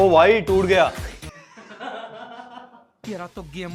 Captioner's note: laughs